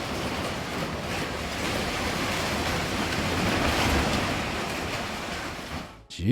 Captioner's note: scaffold clatters and thuds